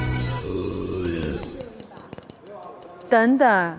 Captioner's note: Listen to the sound of double Golden Keys clinking